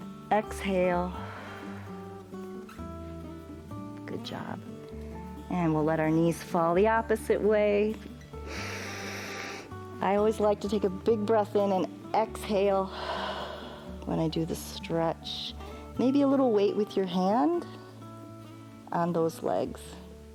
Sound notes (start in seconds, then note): 1.1 exhales; 1.2 inhales; 8.4 inhales; 12.9 exhales